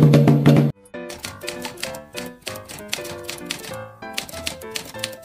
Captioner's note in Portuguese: som de máquina de escrever